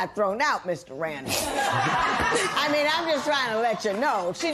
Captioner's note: laughter